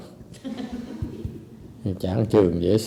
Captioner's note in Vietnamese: laughter